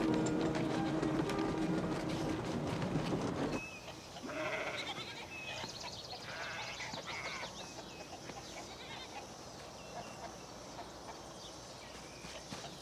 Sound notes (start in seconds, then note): 4.2 goat bleating; 6.2 birds chirping; 8.3 chickens clucking